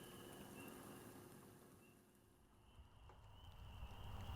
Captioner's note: bird chirping